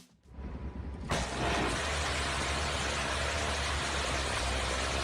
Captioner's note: guns blasting